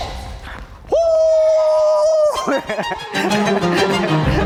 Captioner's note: laughs